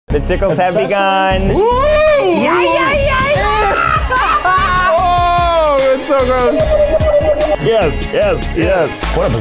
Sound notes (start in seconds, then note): 3.6 laughing; 6.7 water bubbling